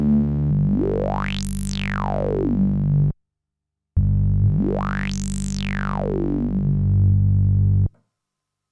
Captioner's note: mimics bass